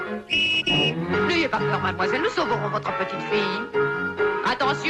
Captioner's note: Ms. Clavel speaking in French; whistle blows; Ms. Clavel speaking in French